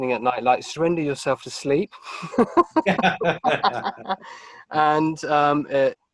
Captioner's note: both laughing